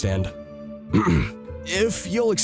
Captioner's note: clears throat